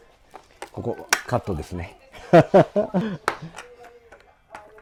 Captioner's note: laugh